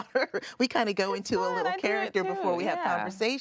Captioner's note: laughs